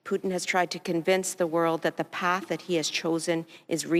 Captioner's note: speaking French